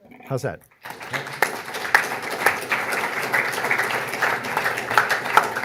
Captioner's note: audience applauding